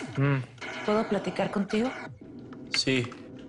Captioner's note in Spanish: Sonidos electrónicos